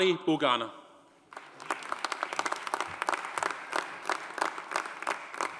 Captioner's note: audience applauding